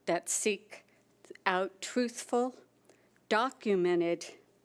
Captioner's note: none